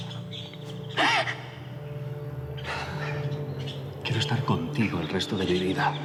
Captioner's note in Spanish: sollozos